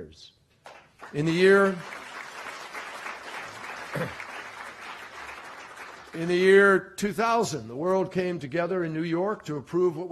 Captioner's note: applause